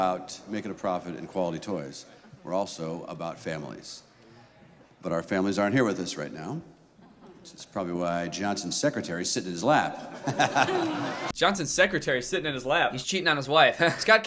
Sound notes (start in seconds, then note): 9.8 laughter; 13.7 awkward laugh